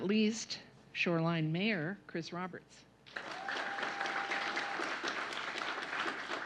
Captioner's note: applause